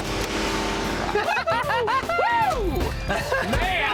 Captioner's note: laughing